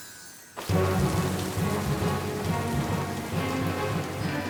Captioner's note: wind whistling